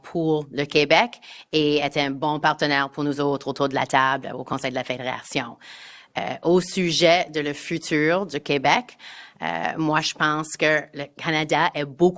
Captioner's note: speaking in French